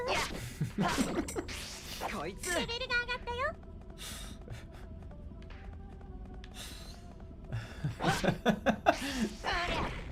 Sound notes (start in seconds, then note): 0.5 giggles; 4.0 continues giggling; 7.6 laughing